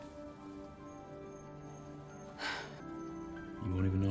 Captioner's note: sighs